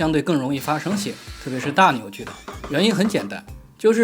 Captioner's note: electric drills